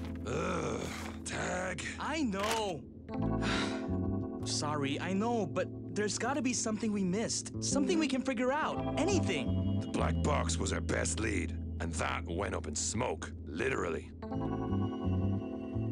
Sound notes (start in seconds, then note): 3.4 sigh